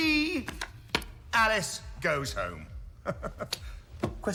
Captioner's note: laughs